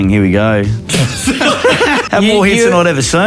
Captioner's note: all laughing